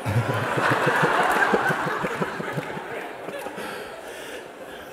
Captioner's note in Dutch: gelach